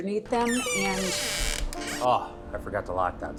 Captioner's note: sound of door opening